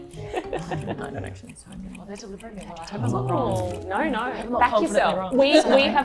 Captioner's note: murmuring